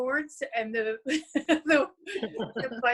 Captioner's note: chuckles